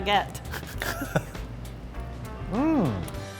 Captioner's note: laughing